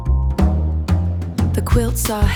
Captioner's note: vibration